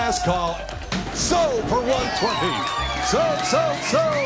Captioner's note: cheers and applause